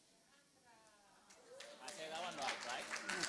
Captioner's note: applause